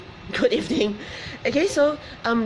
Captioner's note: laughs